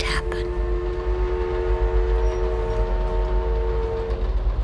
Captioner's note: train whistle blaring; train engine chugging, rattling